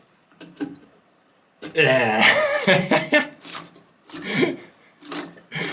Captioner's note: desperate laugh